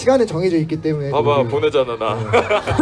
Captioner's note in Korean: 웃음